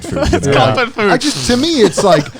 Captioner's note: chuckling